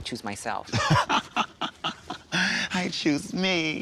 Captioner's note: chuckles